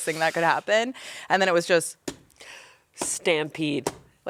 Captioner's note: slaps hands